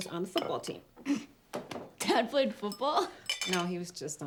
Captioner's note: chuckles